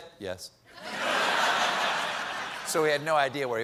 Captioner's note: laughter